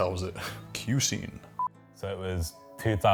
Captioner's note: beep